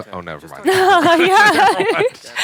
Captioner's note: laughter